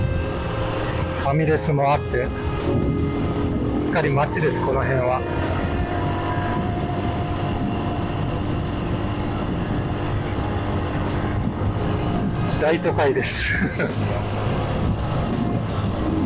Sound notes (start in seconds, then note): 13.5 laughs